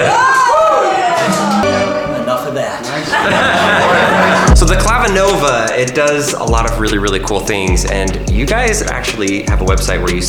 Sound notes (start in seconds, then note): 3.3 laughing